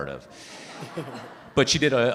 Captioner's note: audience laughing